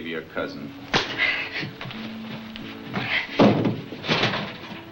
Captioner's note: hand slapping